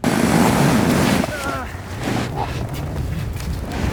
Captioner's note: snow crunching